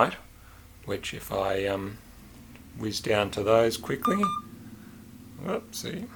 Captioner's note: beep-beep